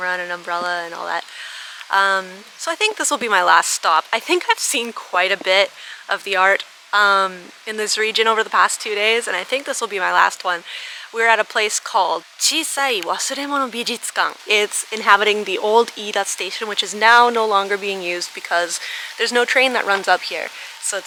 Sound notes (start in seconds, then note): 12.5 speaking foreign language